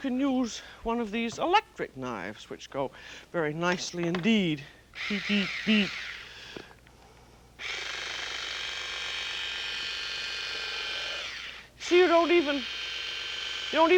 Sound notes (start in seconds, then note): 4.9 whirring